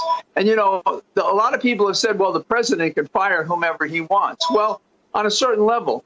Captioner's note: phone ringing